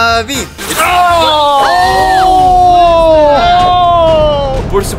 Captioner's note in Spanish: Gritando de shock